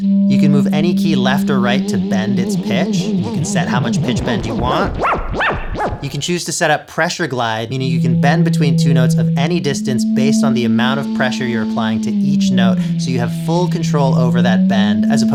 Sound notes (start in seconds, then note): 4.9 exaggerated pitch bend